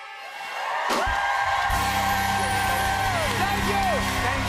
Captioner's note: cheers and applause